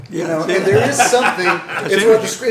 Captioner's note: laughter